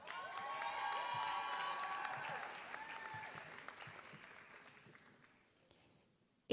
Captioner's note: applause